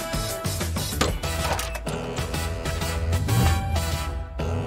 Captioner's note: door handle clicks